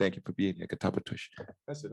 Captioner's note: non-english speech